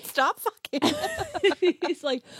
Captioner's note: laughs